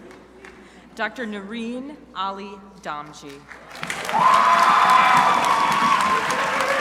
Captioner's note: crowd applauding